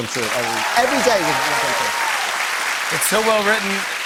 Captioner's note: cheers and applause